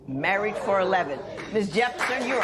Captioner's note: spectators exclaim; applause